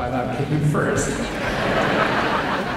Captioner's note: crowd laughs